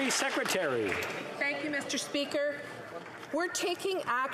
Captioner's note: applause